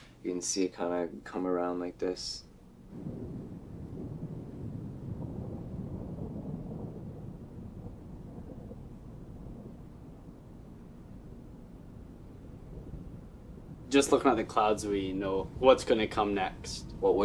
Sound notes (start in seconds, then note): 3.0 thunder rumbles